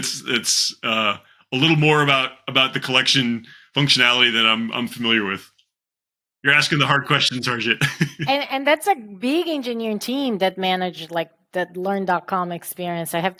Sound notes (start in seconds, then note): 6.7 chuckles